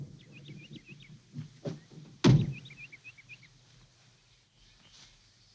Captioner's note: birds calling; heavy door slamming